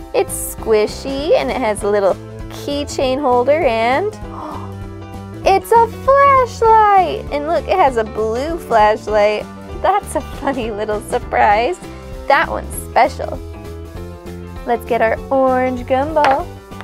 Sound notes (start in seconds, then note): 4.3 gasp